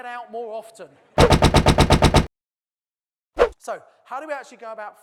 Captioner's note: typewriter keys sound